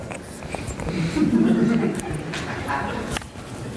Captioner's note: laughter